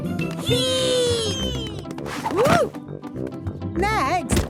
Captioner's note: thumps